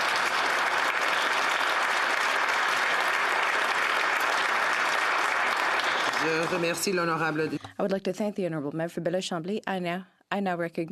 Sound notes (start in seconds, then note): 3.1 applause